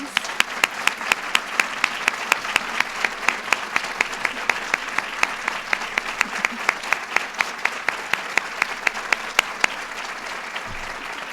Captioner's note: applause